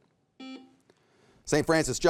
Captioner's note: buzzer beeps